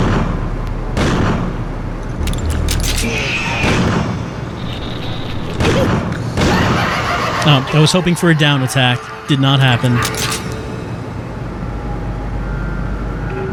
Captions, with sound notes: [electronic screeching] [crazed laughter] Oh, I was hoping for a down attack. Did not happen.